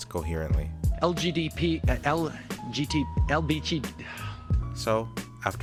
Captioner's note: sighs in G